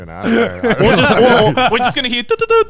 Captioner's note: all laughing